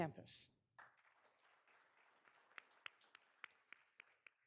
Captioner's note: all applauding